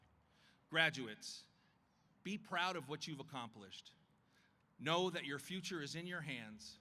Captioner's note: none